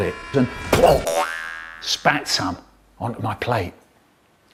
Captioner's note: boing